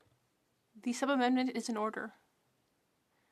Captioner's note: speaking French